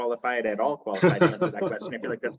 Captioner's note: chuckles